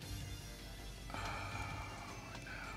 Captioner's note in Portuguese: Suspiro